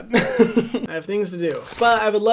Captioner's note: chuckles